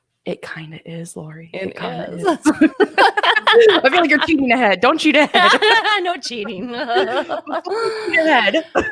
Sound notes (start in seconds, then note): 2.2 both laugh